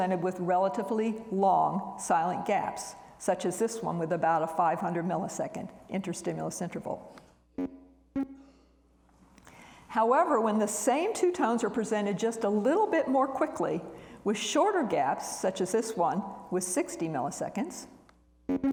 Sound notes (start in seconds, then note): 8.1 computer beeps; 18.5 computer beeps